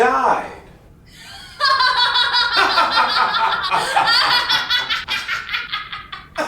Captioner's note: Wilhelmina and Vincent laughing